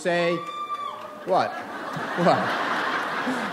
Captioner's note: audience member cheers; audience laughs